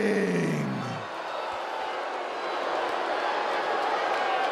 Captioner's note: crowd booing